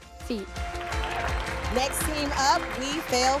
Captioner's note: audience applauds